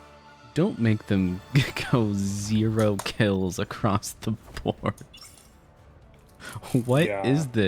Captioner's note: laughs